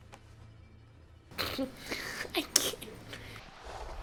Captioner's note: snickers